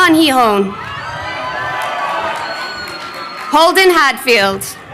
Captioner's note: crowd cheering